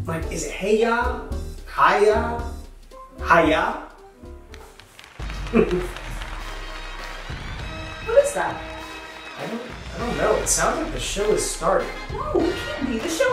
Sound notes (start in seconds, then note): 4.5 audience applauding